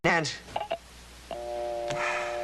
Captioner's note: sighs